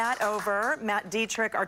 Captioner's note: applause